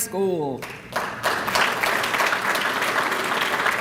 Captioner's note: applause